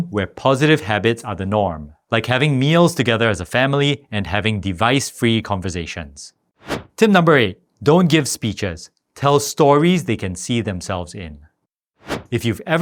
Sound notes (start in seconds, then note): 6.6 air whooshing; 12.0 air whooshing